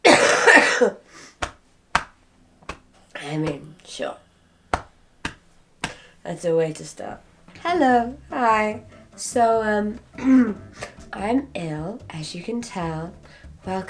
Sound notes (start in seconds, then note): 0.0 adult coughing; 2.6 hand thumping